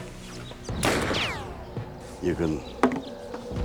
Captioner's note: gun bangs